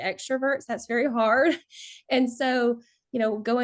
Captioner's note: chuckles